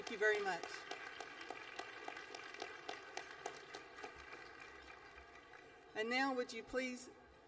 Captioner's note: applause